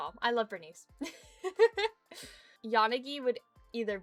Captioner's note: giggles